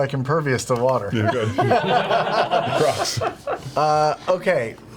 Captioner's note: all laugh